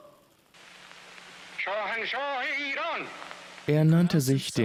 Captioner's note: speaking in a foreign language